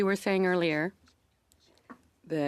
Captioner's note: speaking French